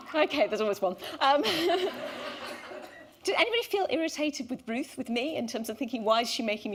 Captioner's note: laughter